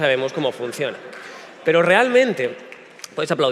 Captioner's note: applause starting